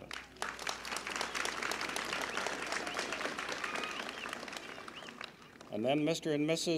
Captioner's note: applause